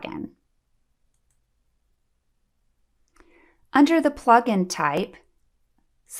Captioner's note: click